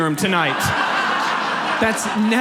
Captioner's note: audience laughs